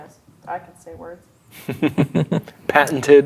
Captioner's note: players chuckling